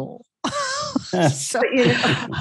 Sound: laughing

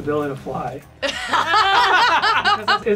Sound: all laughing

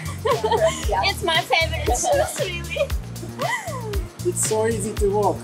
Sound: laughs

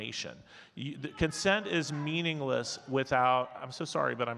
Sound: faintly speaking

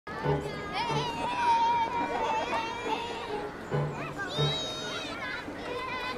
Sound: playful music; children talking

